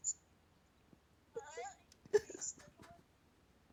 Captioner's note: cries